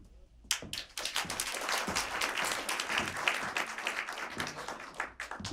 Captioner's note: applause